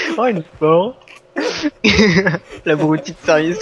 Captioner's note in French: Rire